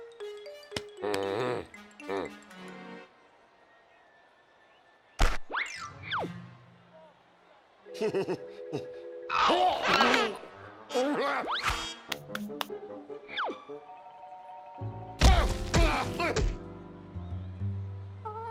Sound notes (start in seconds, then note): 1.1 grumbles; 8.0 sheepish laugh; 9.3 growls; 10.9 whimpering